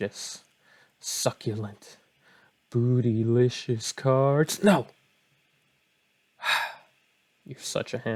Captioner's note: slouch and sigh